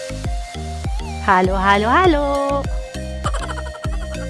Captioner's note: laughing